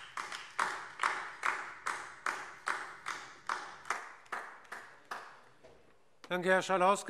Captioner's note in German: Beifall DIE LINKE